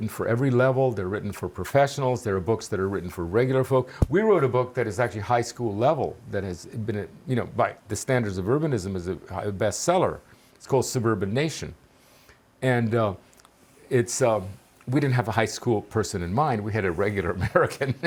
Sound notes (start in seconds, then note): 17.3 laughing